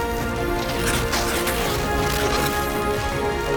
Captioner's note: steady crackling